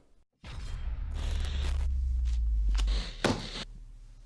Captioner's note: static